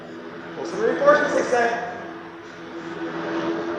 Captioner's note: WWII aircraft sounds